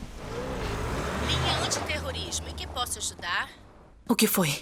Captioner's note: woman on phone